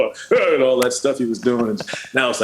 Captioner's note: normal voice